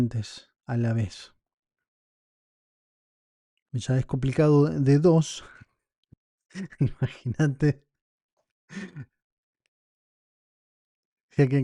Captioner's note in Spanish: risas